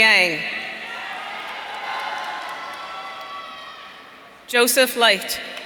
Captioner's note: audience cheering